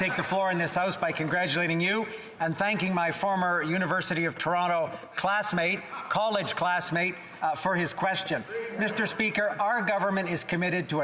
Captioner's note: some Applause